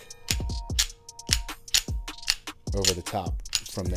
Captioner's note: gun clicks